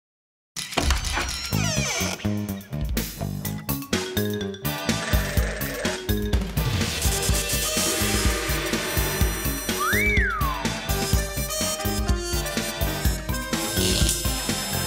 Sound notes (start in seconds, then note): 9.7 whistles